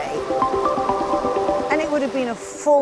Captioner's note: tempo increases; water flows